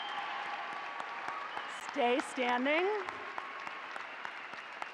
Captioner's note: applause